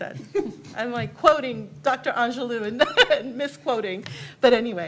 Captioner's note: laughs; laughs